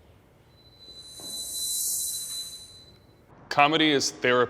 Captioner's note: eerie ringing